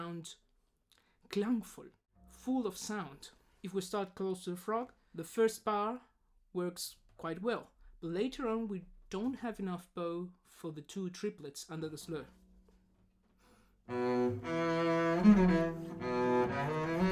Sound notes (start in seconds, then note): 1.8 German